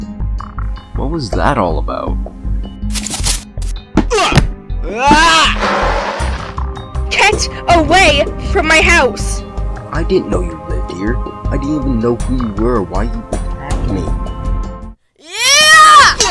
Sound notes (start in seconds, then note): 2.9 running sound; 5.5 skid sound